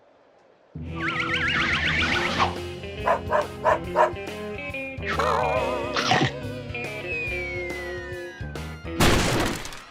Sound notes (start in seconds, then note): 3.0 dog barks; 6.0 chomp; 9.0 crash